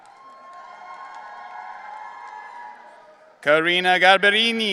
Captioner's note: audience cheering